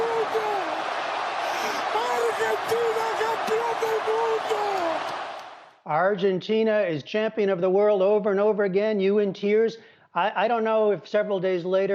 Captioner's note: yelling